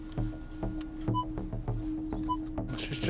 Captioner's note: beeping